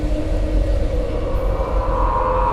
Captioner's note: none